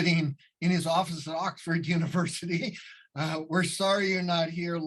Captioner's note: chuckling